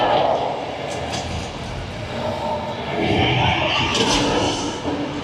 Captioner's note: dinosaurs growling continues